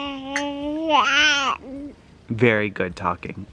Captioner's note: babbles